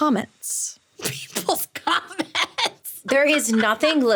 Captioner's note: laughing